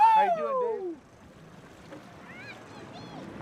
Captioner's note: whooping